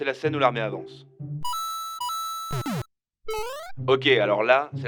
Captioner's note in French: effets sonores Mario au hasard